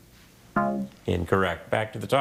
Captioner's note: scoreboard buzzes